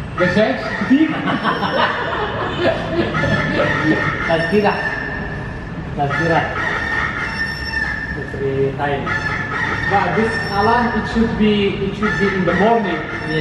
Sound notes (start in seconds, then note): 2.1 laughs; 4.1 speaking Indonesian